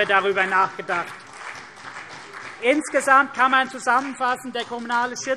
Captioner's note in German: Beifall CDU und vereinzelt BÜNDNIS 90/DIE GRÜNEN